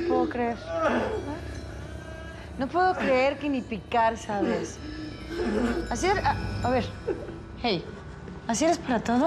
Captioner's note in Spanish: llanto de gastón